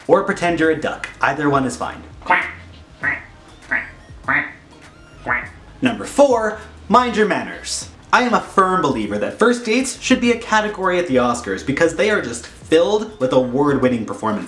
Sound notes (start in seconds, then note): 3.6 quacking repeatedly